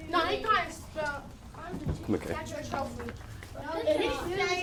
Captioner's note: kids jabbering